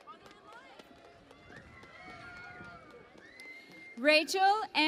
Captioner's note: cheering and Applause